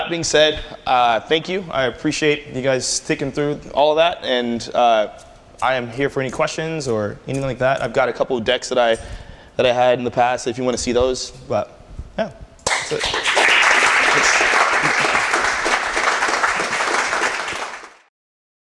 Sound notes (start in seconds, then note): 12.6 applause